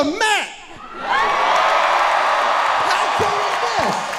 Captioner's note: audience cheering and clapping loudly